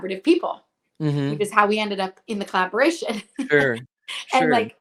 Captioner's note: laughs